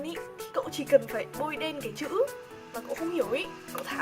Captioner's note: tap